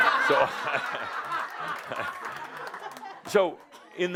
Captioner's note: laughter